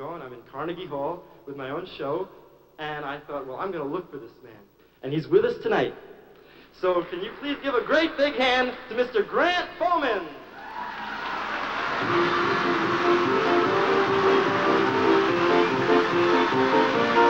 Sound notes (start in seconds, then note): 10.5 cheering, applause